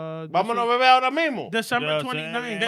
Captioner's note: speaking In Foreign Language